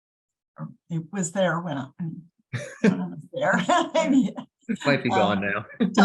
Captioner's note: laughs